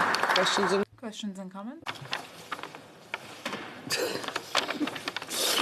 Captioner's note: some applause